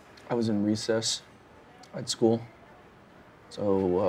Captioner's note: none